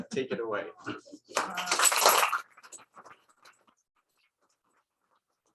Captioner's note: applause